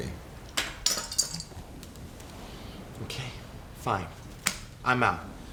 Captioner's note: bottle caps land on table